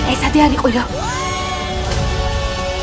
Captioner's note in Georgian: ოლაფის ყვირილი